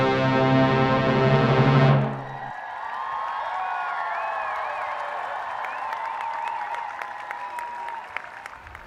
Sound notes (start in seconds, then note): 1.9 cheers and applause